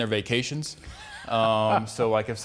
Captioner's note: laughs